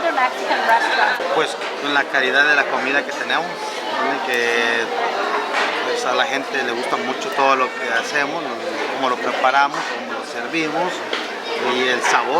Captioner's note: Spanish